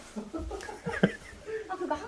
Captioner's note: laughs